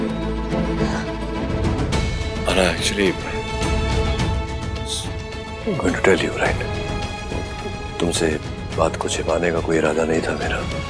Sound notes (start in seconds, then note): 0.6 Ananya gasps